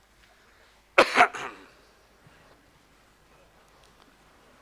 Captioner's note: coughs